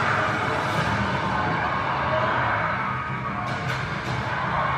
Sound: dramatic music on TV; crowd cheering on TV

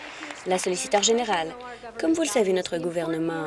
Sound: applause

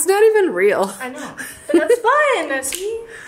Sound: laughs

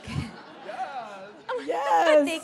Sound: laughing

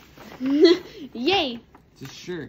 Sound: laughs

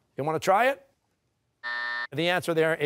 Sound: buzzer

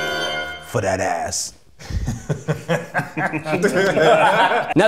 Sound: laughs; all join laughing

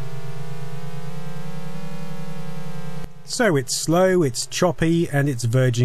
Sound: Droning sounds from the Spectrum

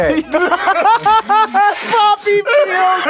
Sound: laughter

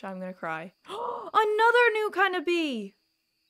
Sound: gasp

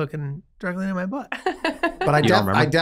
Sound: laughs

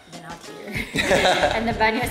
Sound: laughs

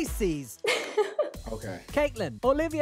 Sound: laughs

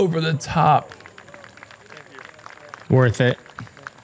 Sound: applause

